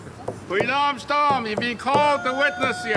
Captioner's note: speaking foreign language